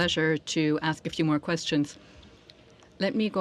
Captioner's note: speaking French